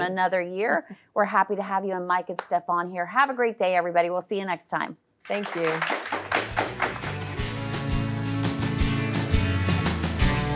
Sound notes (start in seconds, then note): 5.2 audience applauding; 8.9 upbeat rock music